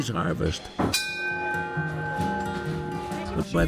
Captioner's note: bell rings